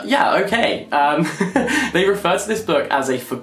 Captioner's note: laughs